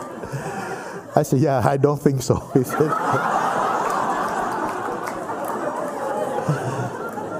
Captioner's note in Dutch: gelach